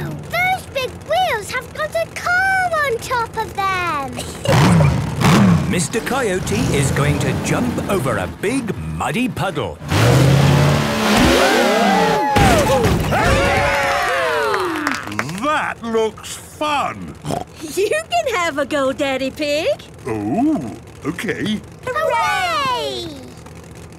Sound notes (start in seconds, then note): 11.0 crowd; 13.6 applause